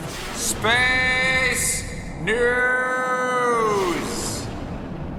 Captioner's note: echo